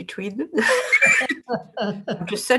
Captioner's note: both laugh